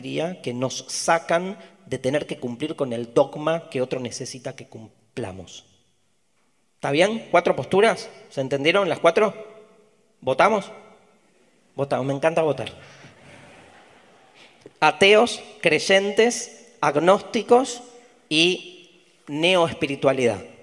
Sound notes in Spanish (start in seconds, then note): 13.2 Audience laughter